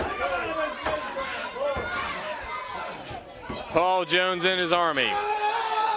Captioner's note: crowd chatter